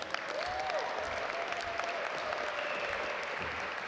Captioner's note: audience applaud